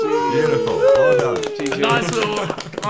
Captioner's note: cheering